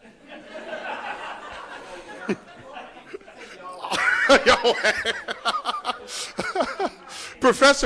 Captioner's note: laughter